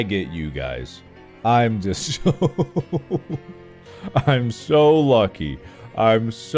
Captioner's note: starts laughing